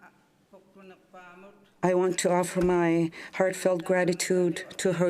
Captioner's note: speaking French